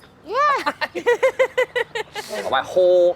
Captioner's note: people laughing